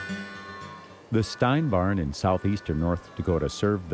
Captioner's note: voiceover